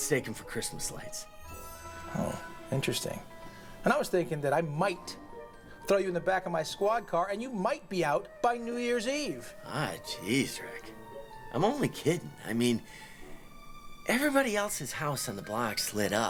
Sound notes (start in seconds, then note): none